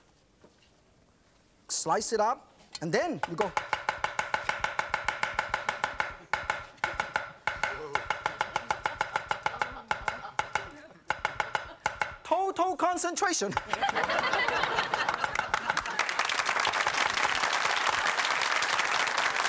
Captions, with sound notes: Slice it up, and then you go. (rhythmic tapping) Total concentration! (audience laughing) (audience clapping)